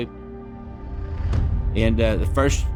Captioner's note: explosion crashing